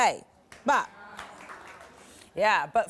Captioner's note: light applause